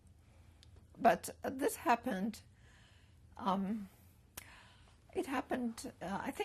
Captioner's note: pauses for 3 seconds